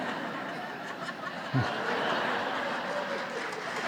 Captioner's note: audience laughing